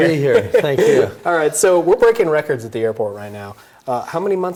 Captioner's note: laughs